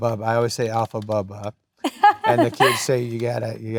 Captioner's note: laughs